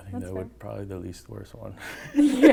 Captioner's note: laughs